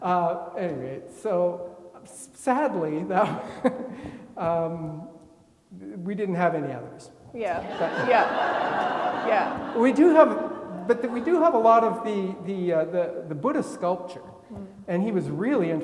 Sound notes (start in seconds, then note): 3.4 laughs; 7.6 attendees laughing